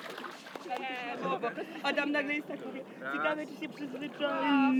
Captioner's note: girls' chatter in the distance